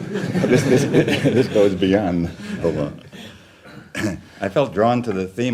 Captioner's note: laughter; laughs